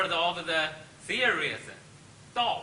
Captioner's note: speaks Chinese